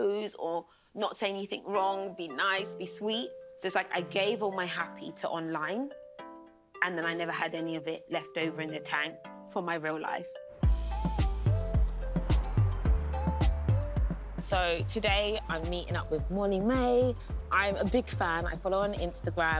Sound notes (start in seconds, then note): none